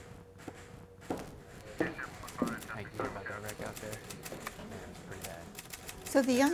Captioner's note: police scanner voices